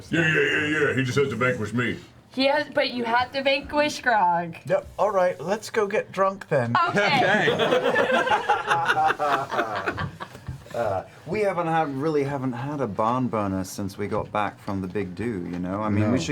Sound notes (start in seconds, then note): 7.1 all laugh